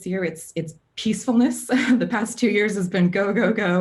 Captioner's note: laughs